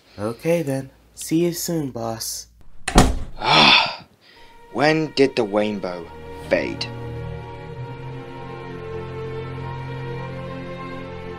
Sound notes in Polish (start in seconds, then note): 3.4 westchnienie